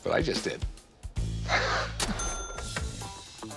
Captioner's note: laughs